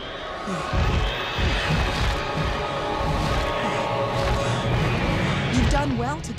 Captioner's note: Homer gasps; wings flapping